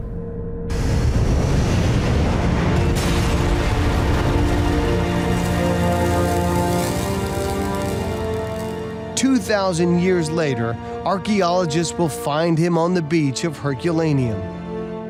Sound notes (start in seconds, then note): 0.7 loud explosions; 1.5 somber music; 14.9 reflective music